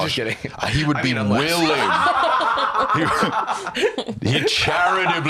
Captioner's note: laughs